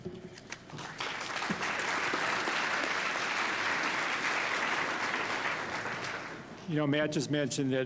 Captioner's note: applause